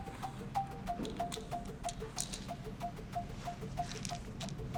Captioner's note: pills rattling